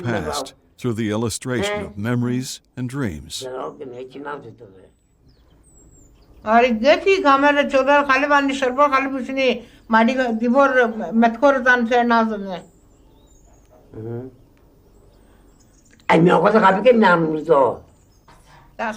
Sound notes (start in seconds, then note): 3.7 speaking foreign language